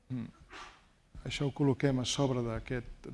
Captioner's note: speaking spanish